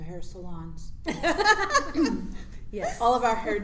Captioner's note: laughs